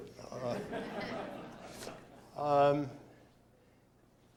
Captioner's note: scattered laughter